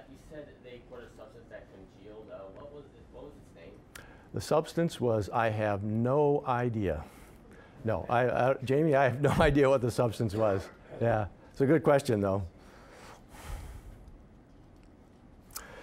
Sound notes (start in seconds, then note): 9.2 chuckling